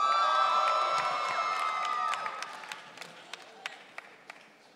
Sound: audience cheering

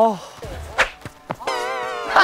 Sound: spin

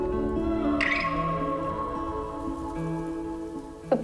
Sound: wheat rustles in the wind

